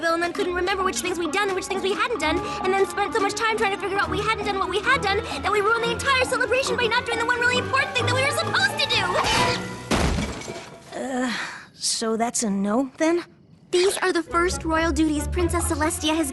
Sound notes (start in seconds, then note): 9.8 thud; 10.0 clang